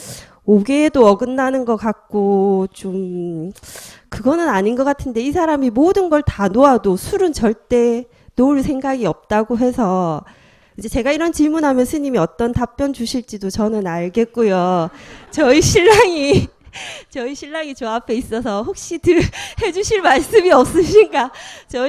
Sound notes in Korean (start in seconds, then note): 14.6 청중 웃음; 14.7 질문자 웃음